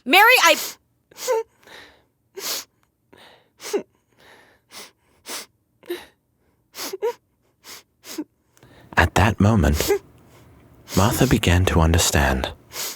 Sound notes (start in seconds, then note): 1.5 Mary crying